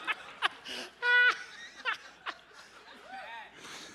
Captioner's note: laughter